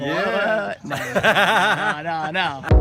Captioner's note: laughter